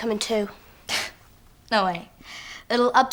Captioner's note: scoffs